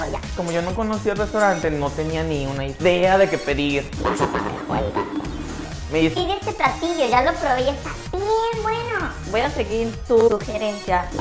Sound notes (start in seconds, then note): 3.9 demonic voice